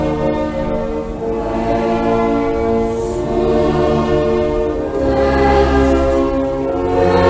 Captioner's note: Static; somber Music